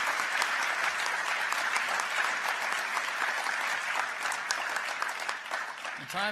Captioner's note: applause